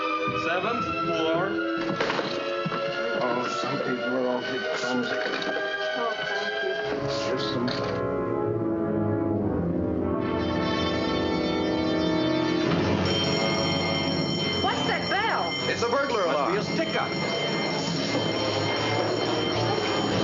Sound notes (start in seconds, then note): 2.8 indistinct chatter; 12.7 alarm blaring